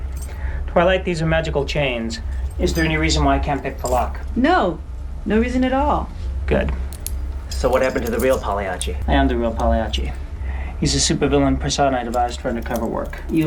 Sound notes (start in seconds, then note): none